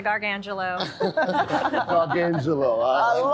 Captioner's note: laughter